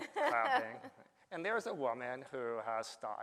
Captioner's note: laughs